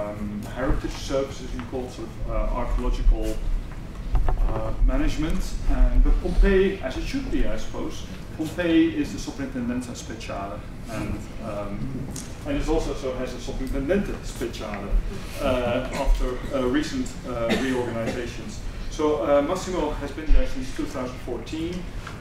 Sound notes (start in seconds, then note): 9.5 speaking italian; 13.4 speaking italian